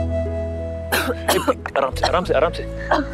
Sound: coughs

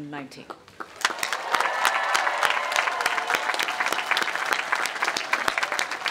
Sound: audience applauding; audience cheering

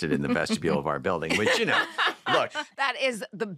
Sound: laughter

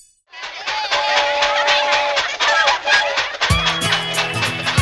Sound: train whistle blows

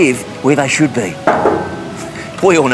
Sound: metal clanging

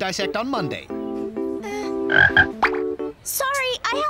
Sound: croaks

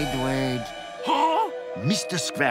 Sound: gasping

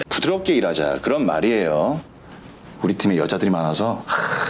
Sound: speaking Korean

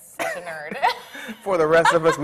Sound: laughs

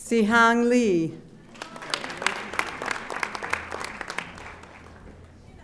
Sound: audience applauding

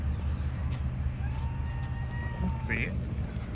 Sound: cries like chipmunk

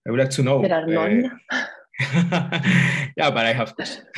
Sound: laughter

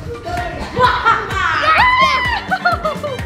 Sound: evil laugh

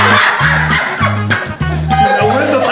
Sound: laughing

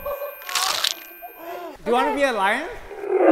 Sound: crunching

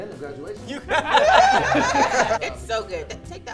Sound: group laughs

